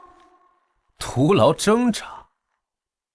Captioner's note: scoffs